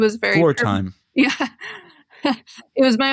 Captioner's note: laughter